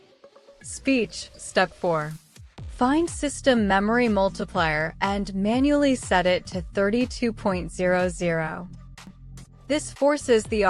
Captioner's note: speech